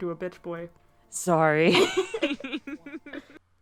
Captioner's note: both laughing